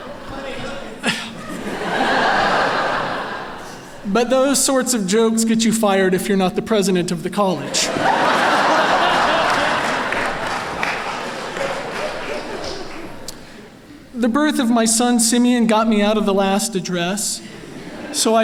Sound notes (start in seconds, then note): 7.6 laughter